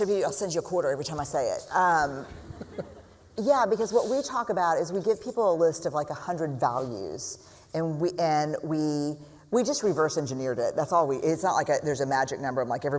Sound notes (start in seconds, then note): 2.3 laughter